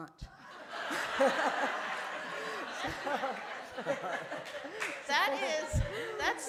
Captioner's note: laughter